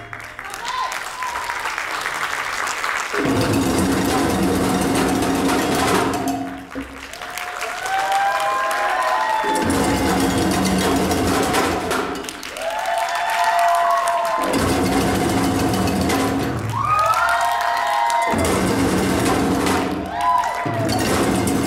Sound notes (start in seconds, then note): 0.2 audience cheering; 3.4 energetic drumming; 7.1 audience cheering; 9.8 energetic drumming; 12.7 audience cheers; 14.7 energetic drumming